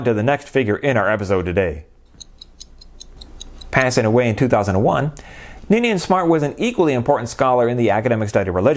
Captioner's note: ticking